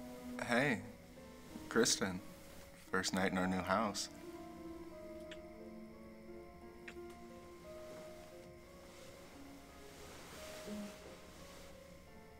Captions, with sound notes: - Hey, Kristin. First night in our new house. (kisses smacking) (soft piano music)